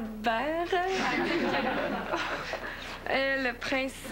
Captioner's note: Rires